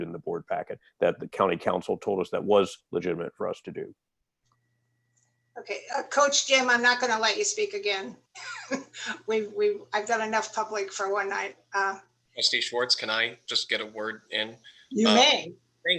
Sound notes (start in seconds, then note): 8.4 laughter